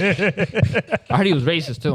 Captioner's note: laughing